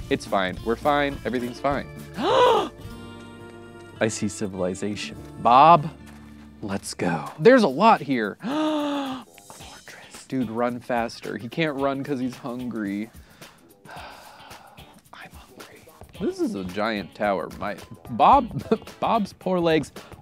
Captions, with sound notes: It's fine, we're fine, everything's fine. (gasps) I see civilization. Bob. Let's go. There's a lot here. (gasps) A fortress. Dude, run faster. He can't run 'cause he's hungry. (sighs) I'm hungry. This is a giant tower. Bob's poor legs.